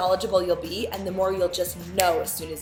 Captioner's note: finger snap